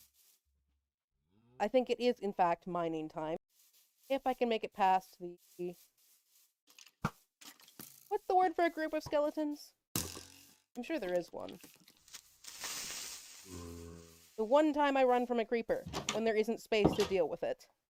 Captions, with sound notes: I think it is, in fact, mining time, if I can make it past the... what's the word for a group of skeletons? I'm sure there is one. [creeper hisses] The one time I run from a creeper: when there isn't space to deal with it.